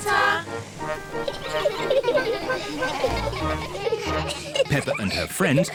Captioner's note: all giggling